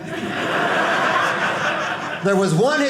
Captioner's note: audience laughing